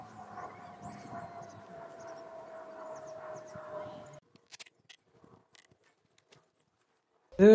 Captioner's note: the sound the plane makes while flying